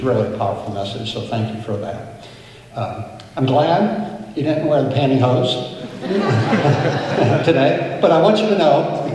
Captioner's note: laughter